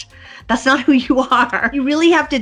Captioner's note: laughs